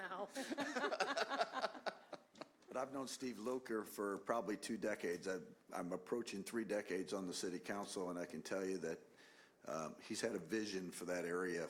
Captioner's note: chuckling